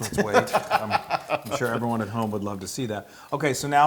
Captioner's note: laugh